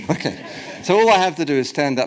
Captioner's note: audience laughs